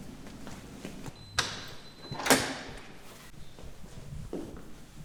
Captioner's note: door beeping